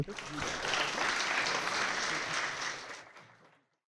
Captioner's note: audience clapping